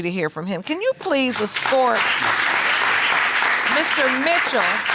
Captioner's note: audience applauding